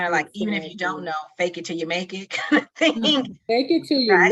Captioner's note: laughing